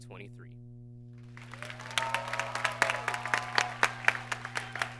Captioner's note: applause